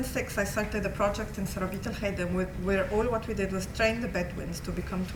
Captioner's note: non-english